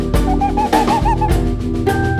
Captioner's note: authentic imitation of the eurasian tawny owls' mating call